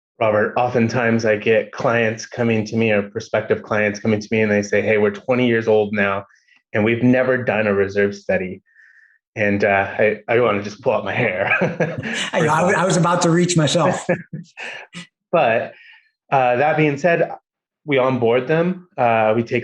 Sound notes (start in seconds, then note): 11.4 laughs